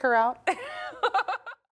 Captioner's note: laughing